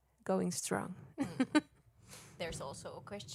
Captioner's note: chuckles